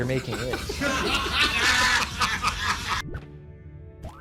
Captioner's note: laughter